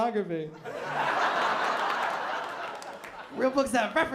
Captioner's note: laughter